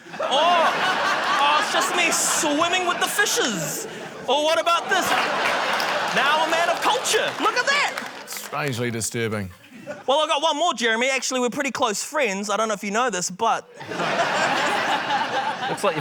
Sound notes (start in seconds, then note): 0.0 laughter; 4.9 applause; 13.8 laughter